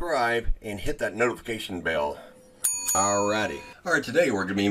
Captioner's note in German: Bell dings